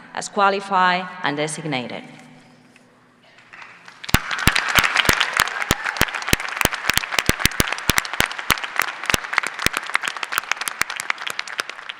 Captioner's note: applause